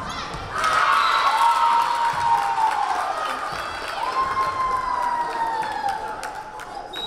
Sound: crowd cheering; whistle blaring

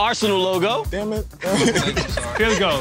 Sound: laughter

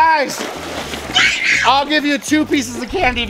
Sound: scream

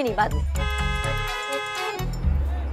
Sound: loud honking

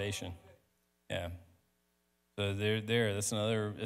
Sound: speaks quickly

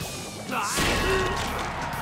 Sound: groaning

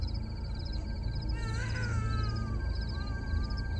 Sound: baby crying

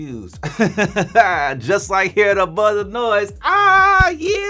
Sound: laughing

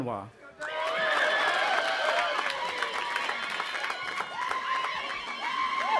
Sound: audience applauding and cheering

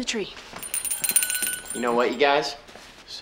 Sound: bell ringing

